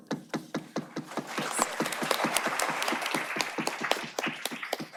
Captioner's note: applause